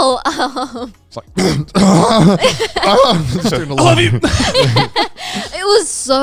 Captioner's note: clearing throat